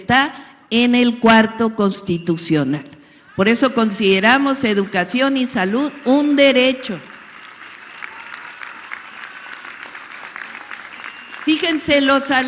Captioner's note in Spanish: aplausos